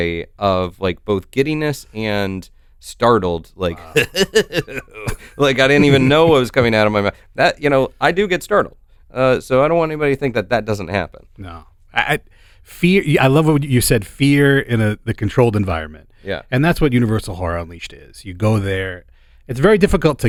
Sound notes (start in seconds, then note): 3.7 chuckles; 3.8 imitates cackling